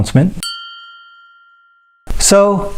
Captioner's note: bell dings